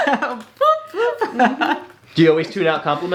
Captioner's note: laughs